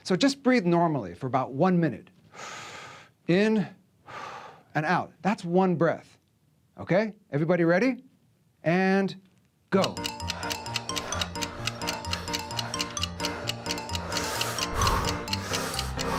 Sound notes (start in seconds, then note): 7.4 breathing sounds